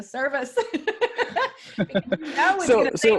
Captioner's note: laughs